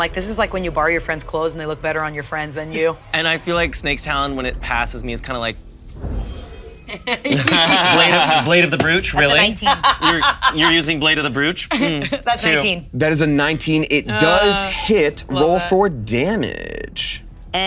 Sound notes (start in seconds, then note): 6.3 blade shings; 6.9 everyone laughing; 9.1 laughing